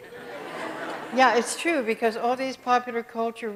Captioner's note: audience laughs